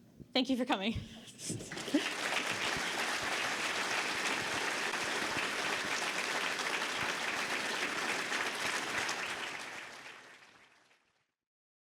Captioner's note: audience Applause